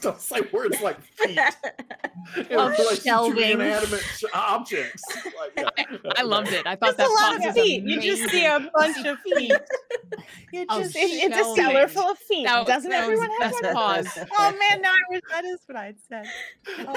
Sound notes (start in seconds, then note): 5.4 group laughing